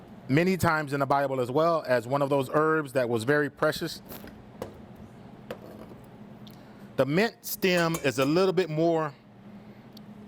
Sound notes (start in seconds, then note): 6.0 knife thumps; 7.6 bowl clangs